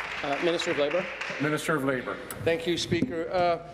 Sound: applause

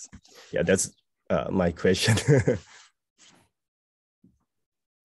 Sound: laughs

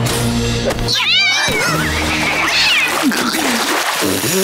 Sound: meowing

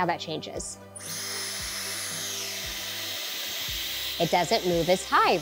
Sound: machine whirring

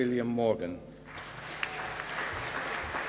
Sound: applause

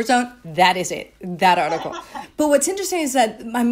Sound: laughing

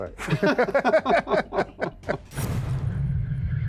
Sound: men laughing

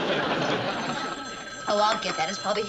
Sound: phone ringing

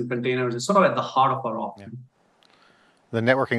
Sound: faintly speaking

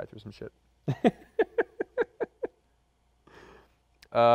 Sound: laughs

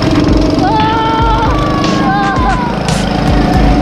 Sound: shouting; motors roaring

